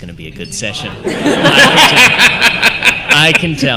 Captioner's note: laughter